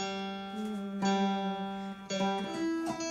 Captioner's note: hums note